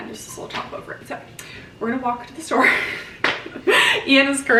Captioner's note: laughing